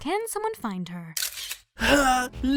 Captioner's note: camera snap